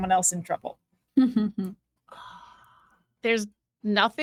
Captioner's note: chuckling